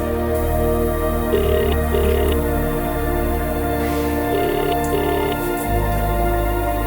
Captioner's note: faint chattering; phone ringing